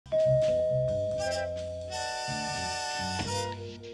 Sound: doorbell rings

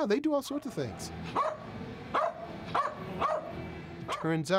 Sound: barking

